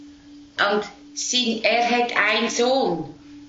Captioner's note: speaking Swiss German